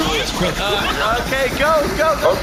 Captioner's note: Enforcer droids start firing, destroying everything